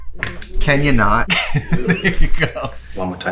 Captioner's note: laughs